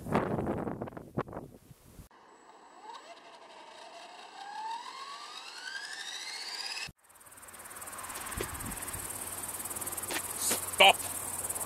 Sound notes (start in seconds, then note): 2.2 engine starting